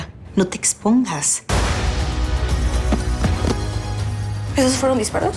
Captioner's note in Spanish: Disparos